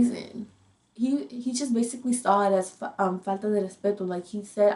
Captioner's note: speaks in foreign language